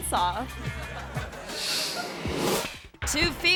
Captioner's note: audience laughing